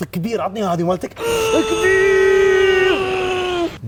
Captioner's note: yelling